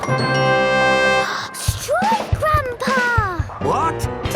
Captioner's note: gasps